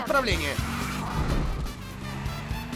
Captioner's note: tires screeching